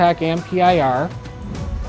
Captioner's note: note swooshes